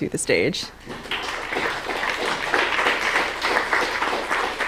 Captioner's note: applause